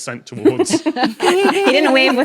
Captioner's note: guests laughing